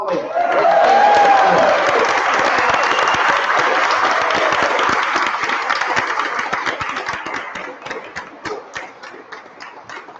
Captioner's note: applause